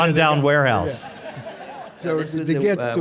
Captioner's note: audience laughing